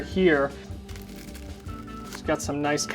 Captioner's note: bread crunching